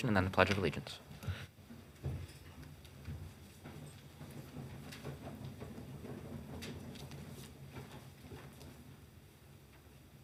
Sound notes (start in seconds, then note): 1.9 chairs moving